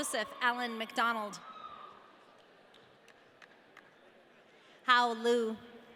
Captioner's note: audience cheering